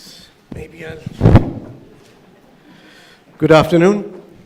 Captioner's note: microphone thuds